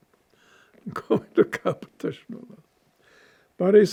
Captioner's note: laughing